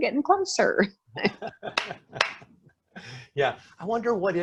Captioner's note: laughing